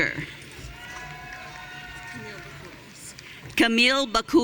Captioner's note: audience cheering